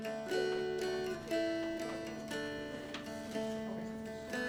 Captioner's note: students chattering